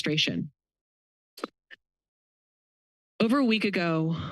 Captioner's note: pause